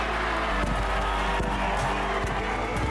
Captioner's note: crowd cheering